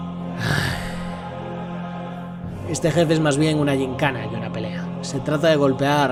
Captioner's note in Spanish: suspiro